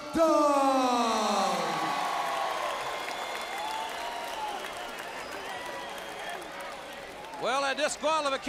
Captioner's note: crowd cheering